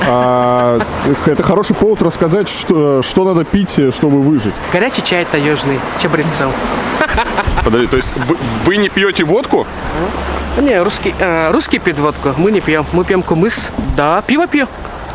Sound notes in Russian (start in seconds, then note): 6.9 смех